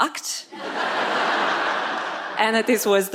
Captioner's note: audience laughs